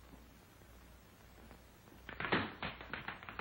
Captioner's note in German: tippendes